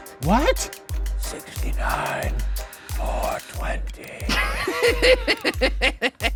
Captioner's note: laughing